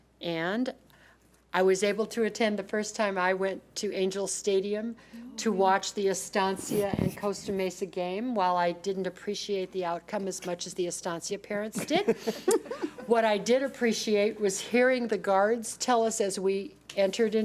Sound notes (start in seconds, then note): 11.8 everyone laughs